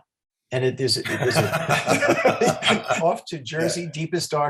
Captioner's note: laughing